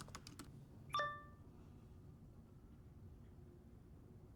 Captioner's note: laptop chimes